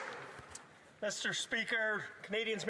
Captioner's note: some Applause